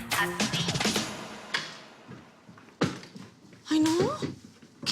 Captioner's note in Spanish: Sonido al abrir la puerta